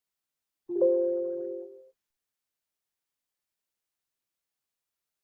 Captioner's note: computer chiming